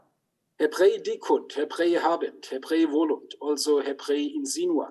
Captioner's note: speaks in Hebrew